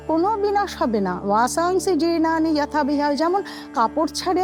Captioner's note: chanting